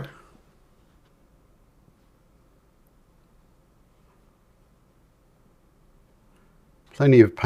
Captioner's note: silence